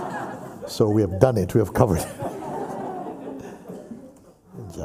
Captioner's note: laughter